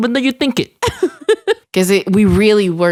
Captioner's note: chuckles